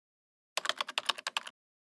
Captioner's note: typing